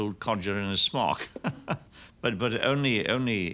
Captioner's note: chuckles